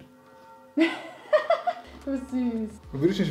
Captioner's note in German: lacht